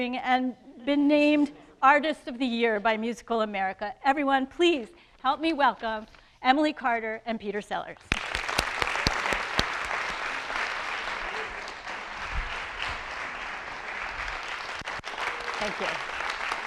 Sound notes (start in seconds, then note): 8.1 audience applauding